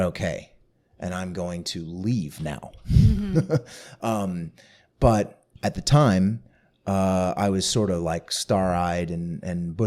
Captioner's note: laughter